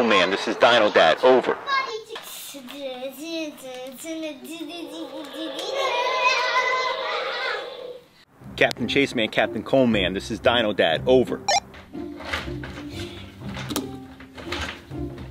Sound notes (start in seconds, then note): 3.9 children vocalizing; 4.8 dinosaur toy roars; 11.5 walkie talkie beeps; 12.6 happy music